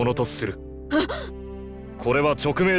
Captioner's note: gasp